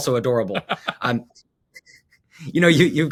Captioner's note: laughs